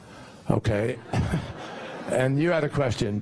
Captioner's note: laughter